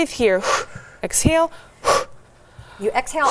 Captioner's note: exhales